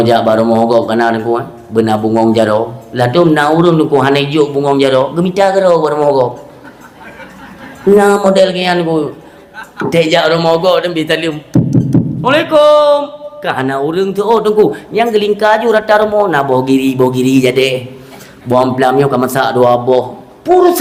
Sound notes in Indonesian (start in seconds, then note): 6.5 tertawa